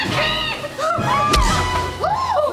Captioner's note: pow